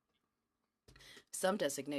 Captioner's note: speaking in french